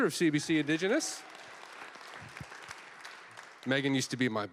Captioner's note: applause